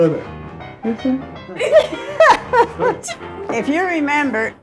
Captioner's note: laughs